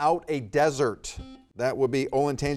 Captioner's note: buzzer beeping